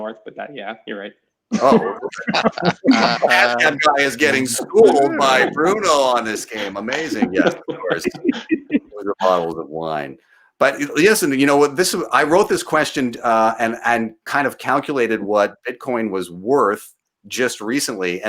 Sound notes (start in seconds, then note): 1.5 laughing